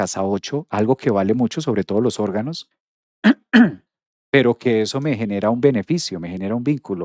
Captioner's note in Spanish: carraspeo